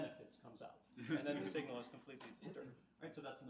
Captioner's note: audience laughs